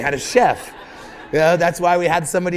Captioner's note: laughter